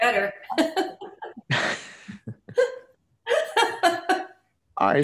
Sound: panelists laughing

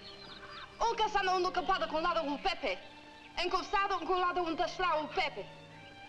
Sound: Nona speaking in foreign language

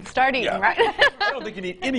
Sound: laughs

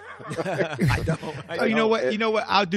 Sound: laughter

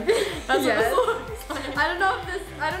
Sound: laughs

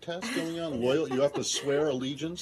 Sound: laughter

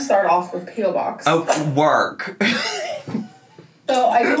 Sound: laughing

